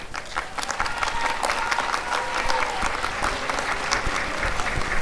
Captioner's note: applause and cheering